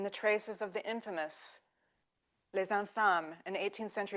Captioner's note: speaking French